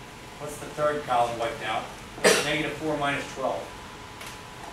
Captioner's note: speaks softly